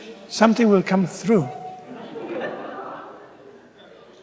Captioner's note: laughter